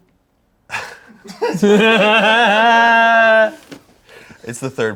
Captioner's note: everyone laughs